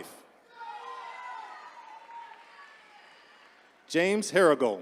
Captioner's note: attendees cheering